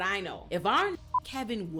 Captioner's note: beep